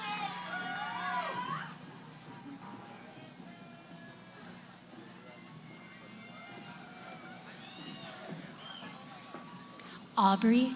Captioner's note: cheering